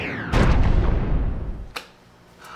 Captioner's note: boom!